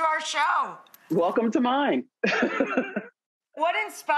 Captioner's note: laughs